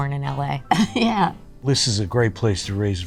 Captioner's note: chuckles